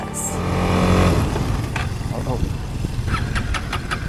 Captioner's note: engine cuts; engine won't start